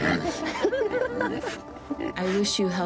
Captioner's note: pig grunting; people laughing